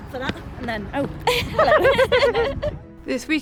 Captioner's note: chuckles